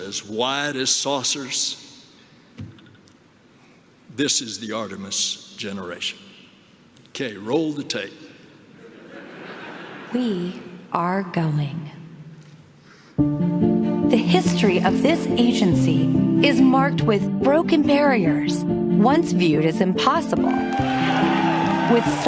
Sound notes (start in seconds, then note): 8.7 laughter